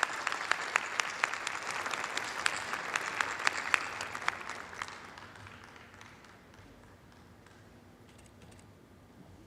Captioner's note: applause